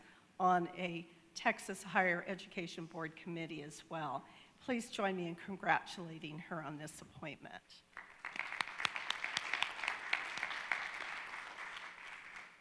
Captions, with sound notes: on a Texas Higher Education Board Committee as well. Please join me in congratulating her on this appointment. (audience claps)